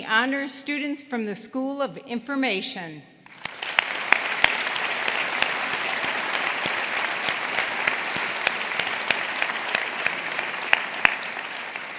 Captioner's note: applause